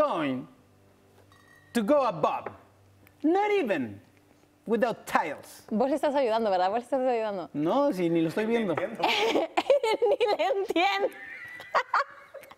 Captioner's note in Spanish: risas